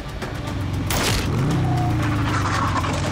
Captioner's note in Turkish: Silah sesi